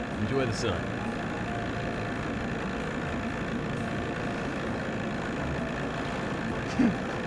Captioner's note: engine purring; giggles